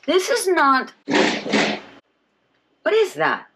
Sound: thudding

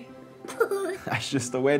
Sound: laughs

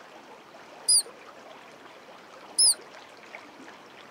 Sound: squeaking

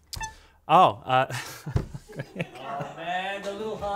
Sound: laughs

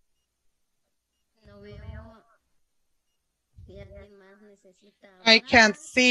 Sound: speaks Spanish

